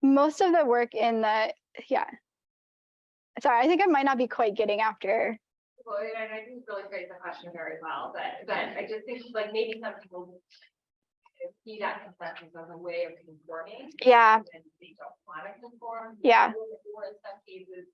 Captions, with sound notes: Most of the work in the, yeah, sorry, I think I might not be quite getting after. Well, and I didn't really phrase the question very well, but I just think like maybe some people will see that (audio blurs) as a way of conforming. Yeah. And then they don't wanna conform. Yeah.